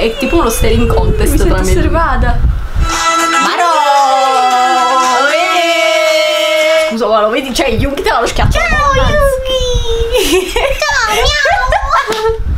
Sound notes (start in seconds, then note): 5.6 italian noises of appreciation